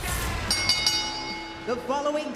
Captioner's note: bell rings